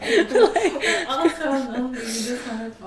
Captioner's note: laughs